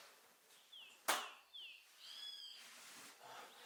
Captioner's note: birds chirping